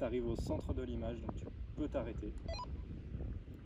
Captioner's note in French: bip